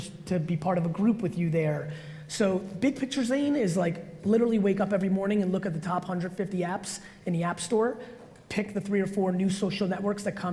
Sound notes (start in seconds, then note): none